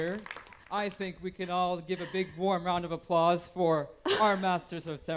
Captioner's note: applause